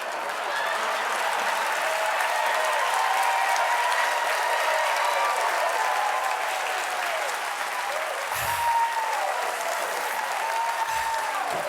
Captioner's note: cheers and applause